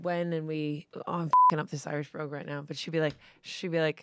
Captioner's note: beep